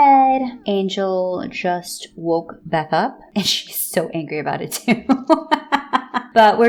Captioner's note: laughs in torturing a fictional toddler